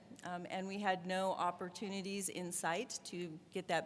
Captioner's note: none